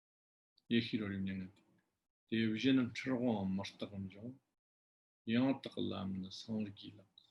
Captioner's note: tibetan